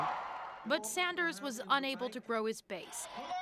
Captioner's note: cheers and Applause